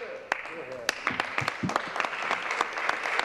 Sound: applause

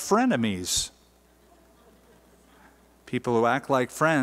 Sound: laughter

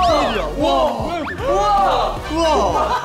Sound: surprised

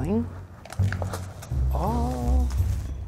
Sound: unclicking pans

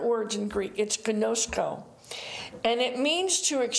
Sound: speaking in foreign language

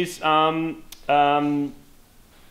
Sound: clicks tongue

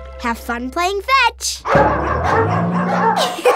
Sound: barking

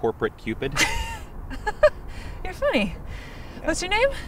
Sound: laughs

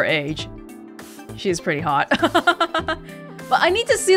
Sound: chuckles

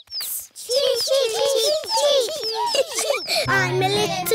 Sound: children imitating chicks

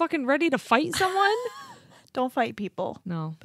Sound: chuckles

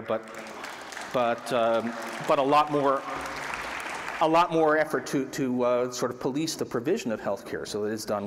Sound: applause

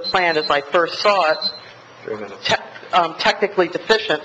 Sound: alarm beeps

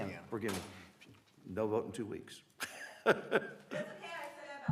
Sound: laughter

